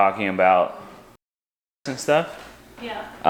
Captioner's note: audio skips